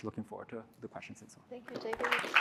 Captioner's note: applause